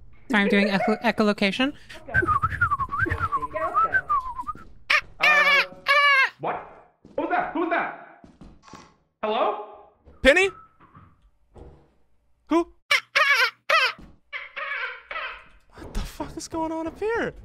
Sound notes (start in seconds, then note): 0.3 laughs; 2.1 more whistling sounds; 4.9 makes dolphin sounds; 8.5 land mine beeps; 10.4 whistling sounds; 14.3 dolphin sounds echo; 14.3 makes dolphin sounds